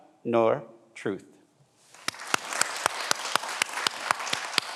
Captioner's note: everyone applauds